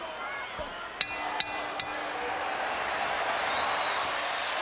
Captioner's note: bell dings